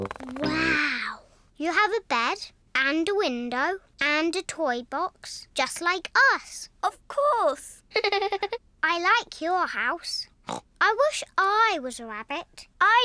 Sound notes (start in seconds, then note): 7.9 giggles; 10.4 snorts